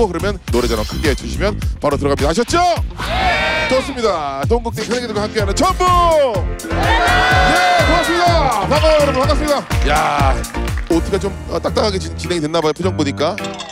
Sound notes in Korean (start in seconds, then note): 8.8 어색 박수